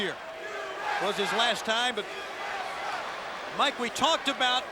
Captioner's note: crowd chanting